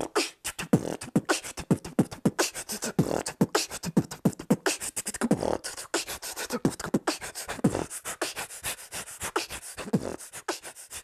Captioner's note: beatboxing